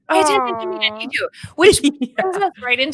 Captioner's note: speaking faintly